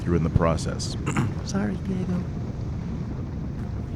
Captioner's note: whispers